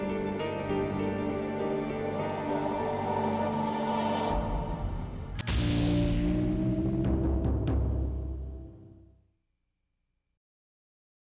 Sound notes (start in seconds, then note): 5.2 electricity zapping; 5.2 logo thumping